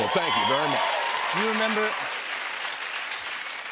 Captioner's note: cheers and applause